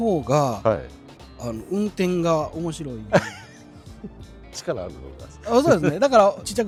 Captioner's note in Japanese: 笑い